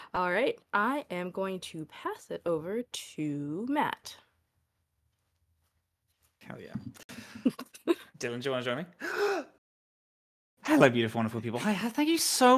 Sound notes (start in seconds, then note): 9.0 gasps